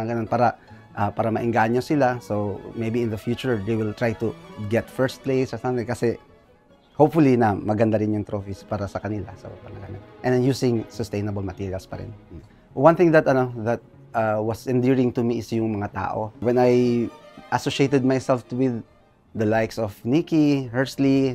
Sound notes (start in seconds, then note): none